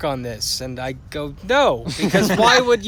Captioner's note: laughter